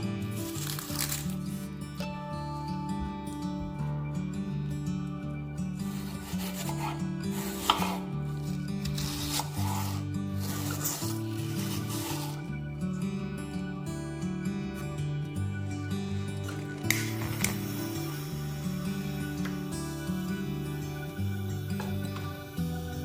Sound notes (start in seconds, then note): 10.4 slicing sound